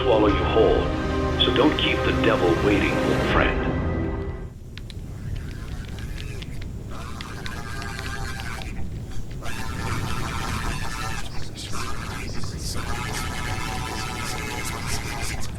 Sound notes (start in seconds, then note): 3.5 fire crackling; 4.9 robotic screams